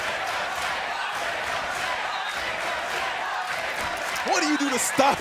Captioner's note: fans chanting